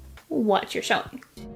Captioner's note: excellent in creepy alien accent